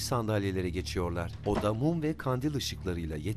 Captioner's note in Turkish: Kapı kapanma sesi